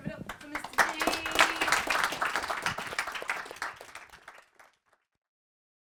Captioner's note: applause